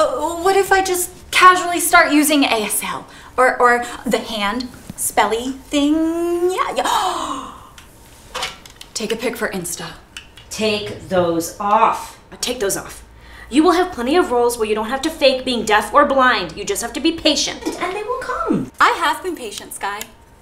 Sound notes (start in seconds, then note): 6.9 gasping